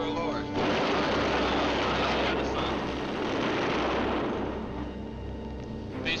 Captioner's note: machine gun fire rattling